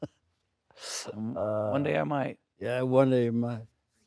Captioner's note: Stellan laughing